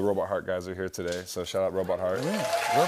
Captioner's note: cheers and applause